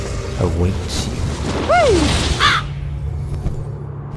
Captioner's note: crow cawing